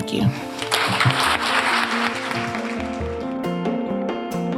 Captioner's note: applause